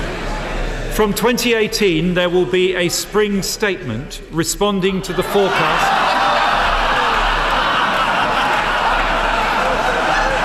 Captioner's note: laughter